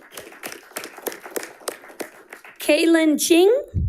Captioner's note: audience applauding